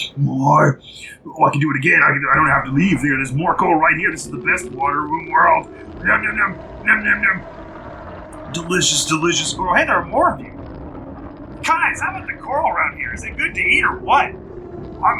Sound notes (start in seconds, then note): 6.5 howl